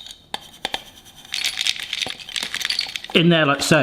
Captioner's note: pet food tinkling